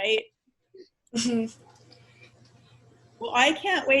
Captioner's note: laughs